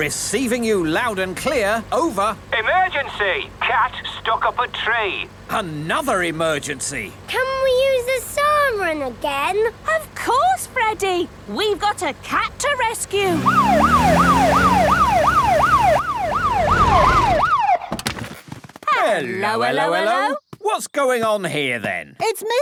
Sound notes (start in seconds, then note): 13.2 siren